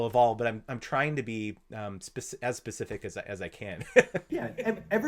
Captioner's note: chuckles